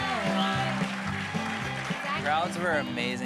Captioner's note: applause drowns out singing